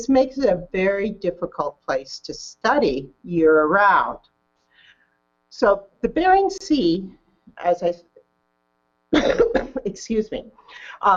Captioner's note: coughs